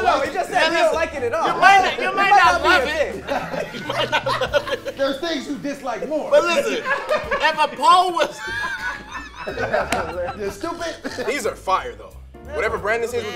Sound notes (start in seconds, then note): 9.2 laughing